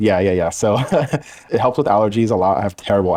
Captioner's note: laughing